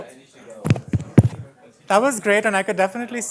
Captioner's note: tapping noises